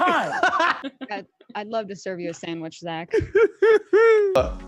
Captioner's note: laughs; laughs